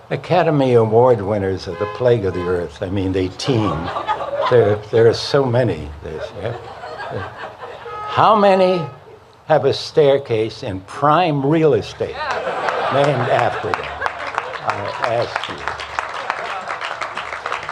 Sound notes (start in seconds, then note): 6.1 laughter; 14.3 cheers and applause